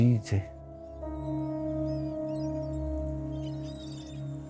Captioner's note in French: cris de mouettes